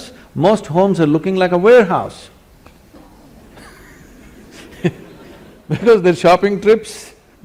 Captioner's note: laughter